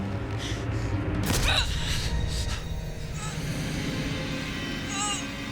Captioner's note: Susan grunting